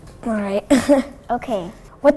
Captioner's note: laughs